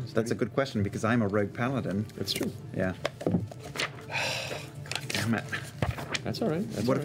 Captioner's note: sighs